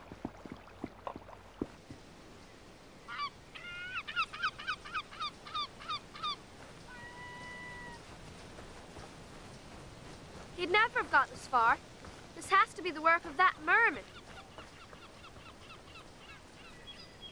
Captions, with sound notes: (gulls cawing) - He'd never have got this far. This has to be the work of that merman.